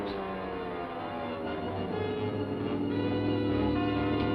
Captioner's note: engine buzzing